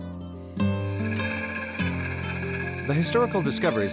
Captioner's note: gentle music; car engine whirring